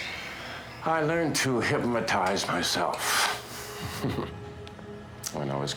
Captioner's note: chuckles